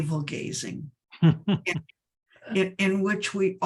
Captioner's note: chuckles